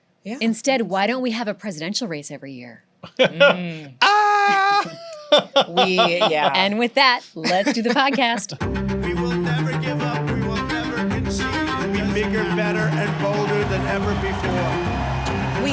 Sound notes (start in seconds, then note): 3.0 laughs